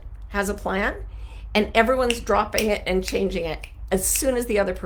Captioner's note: snaps